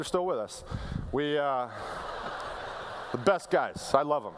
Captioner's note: laughter